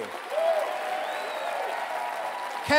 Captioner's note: cheering